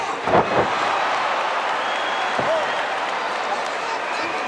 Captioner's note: crowd cheers